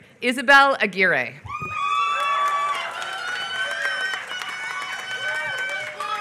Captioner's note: applause